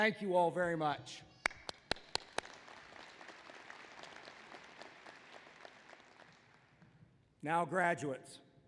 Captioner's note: applause